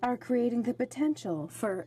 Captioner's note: speaking French